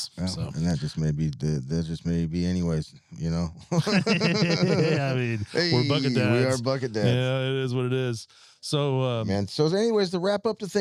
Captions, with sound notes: before the season starts. Otherwise we're gonna look like idiots. And that just may be anyways, you know? (laughing) We're bucket dads. We are bucket dads.